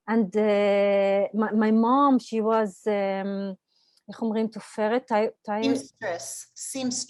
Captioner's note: Hebrew